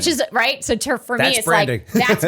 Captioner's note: laughter